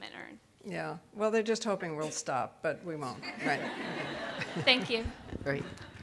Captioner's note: audience laughing